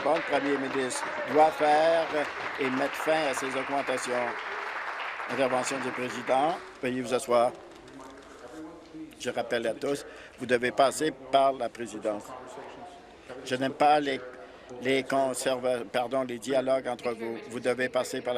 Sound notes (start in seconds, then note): 4.9 applause